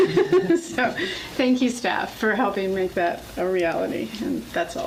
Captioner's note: laughs